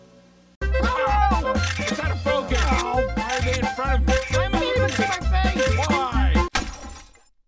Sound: various voices and camera clicking sounds

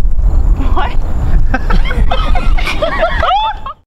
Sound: everyone Laughs

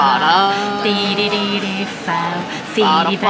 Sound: mouth bgm continues

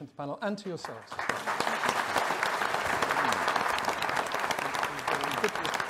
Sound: audience applauding

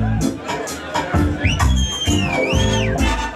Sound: piercing whistle; brass flourish

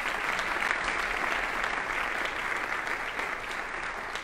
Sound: audience applauding

